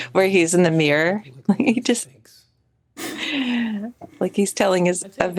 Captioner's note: chuckles